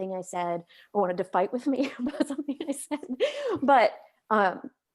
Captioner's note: chuckles